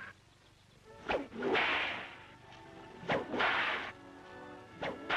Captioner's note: cracking whip